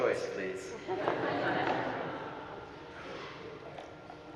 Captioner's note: audience laughing